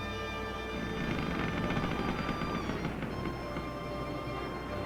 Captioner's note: rail creaking